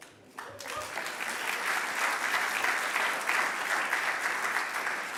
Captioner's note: audience applauding